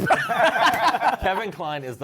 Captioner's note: laughter